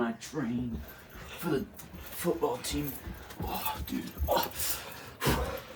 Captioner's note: labored breathing